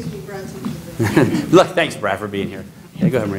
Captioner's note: laughter